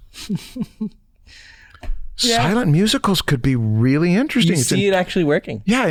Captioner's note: chuckles